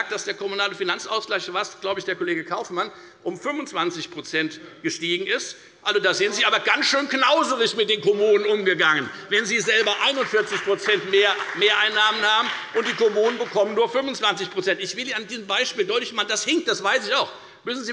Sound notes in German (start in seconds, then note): 9.3 Beifall bei der FDP und bei Abgeordneten der SPD